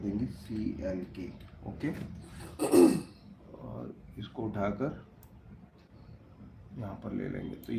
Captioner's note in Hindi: गला साफ़ करने की आवाज़